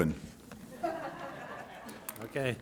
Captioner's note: laughter